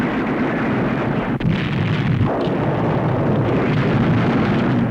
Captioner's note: explosion